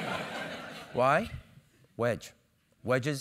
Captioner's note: laugh